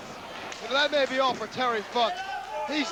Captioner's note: crowd cheering